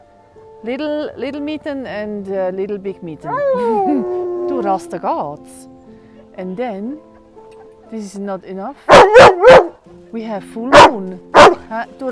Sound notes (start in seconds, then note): 3.2 Rasta is howling like a wolf; 8.9 Rasta is barking